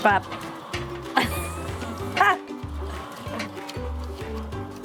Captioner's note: laughs